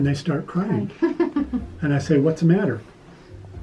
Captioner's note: giggling